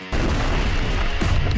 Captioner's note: explosion